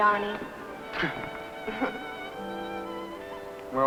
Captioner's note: gentle chuckling